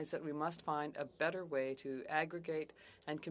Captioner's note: speaking French